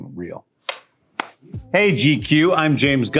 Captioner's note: clapperboard claps; claps hands together